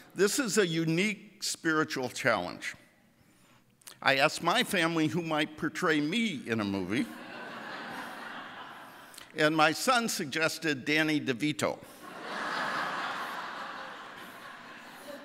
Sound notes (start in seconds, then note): 7.0 audience laughing; 12.0 audience laughing